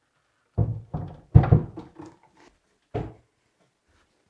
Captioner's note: cabinet thudding